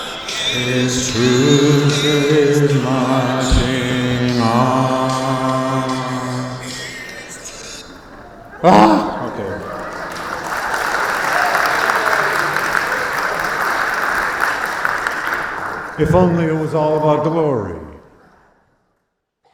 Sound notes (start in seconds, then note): 8.6 sighing; 8.6 audience applauding